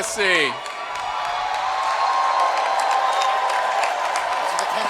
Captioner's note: cheering